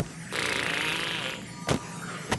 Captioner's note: blows raspberry